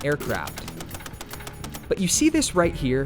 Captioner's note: gunshots ring